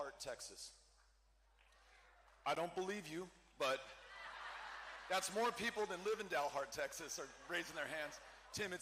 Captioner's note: cheering